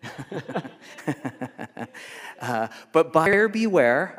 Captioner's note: laughing